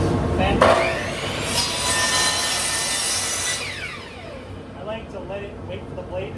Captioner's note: saw motor whirs